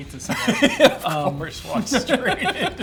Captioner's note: laughs